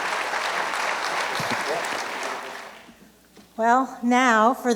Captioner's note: applause